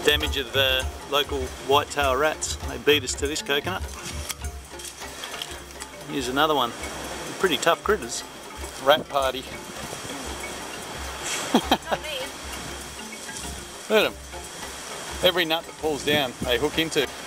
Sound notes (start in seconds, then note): 11.2 laughs